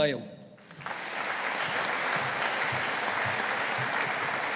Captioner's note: audience applauding